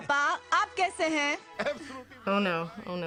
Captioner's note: speaks Hindi; dad replies in Hindi